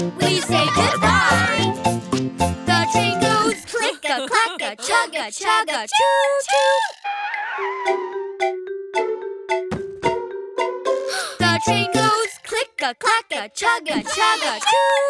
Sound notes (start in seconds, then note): 7.6 feet squeal; 11.1 baby gasps